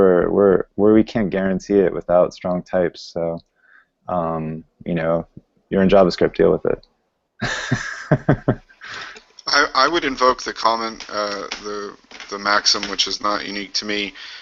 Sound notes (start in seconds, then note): 7.4 laughing